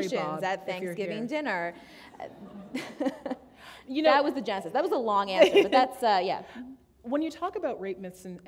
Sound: chuckle

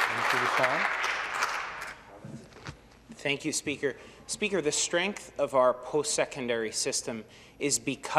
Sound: some Applause

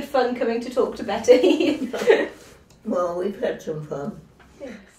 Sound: they laugh

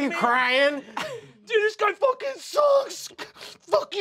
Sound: sobs

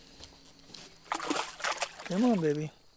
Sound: splash

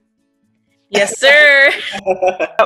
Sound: laughs

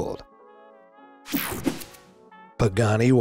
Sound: swooshes

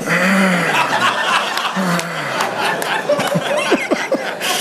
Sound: congregation laughing

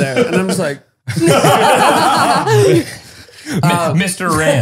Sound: all laughing

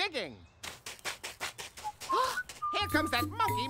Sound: whistling

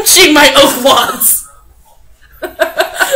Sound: laughs

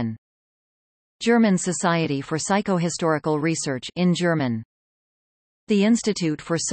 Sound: in German

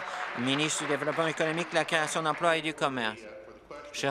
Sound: applause

